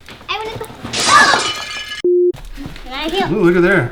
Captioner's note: crashing and smashing